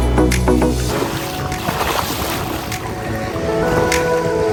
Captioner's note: water splashing